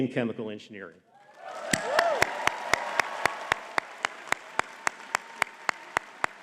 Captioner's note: audience cheering and clapping